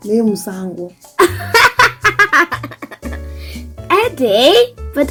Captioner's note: laughing